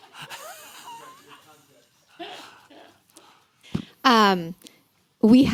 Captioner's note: laughter